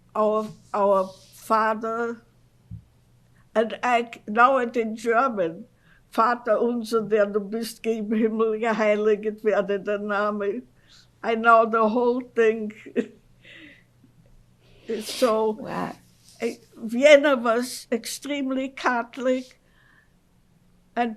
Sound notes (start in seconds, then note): 6.0 german; 13.0 laughs